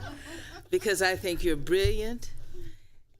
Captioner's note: laughter